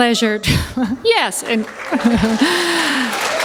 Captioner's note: applause; chuckle